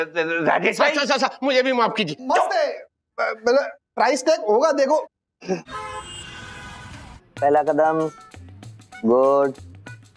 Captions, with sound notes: - Rajesh. - Sir, please forgive me. They are amazing. The price tag must be inside. [cars honking] One step. Good.